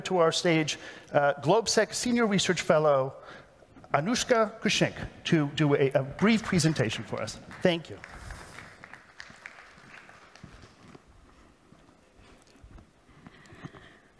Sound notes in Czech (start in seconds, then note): 10.2 Potlesk